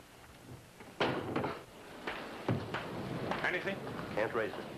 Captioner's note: window clunks